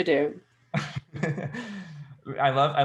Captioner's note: laughing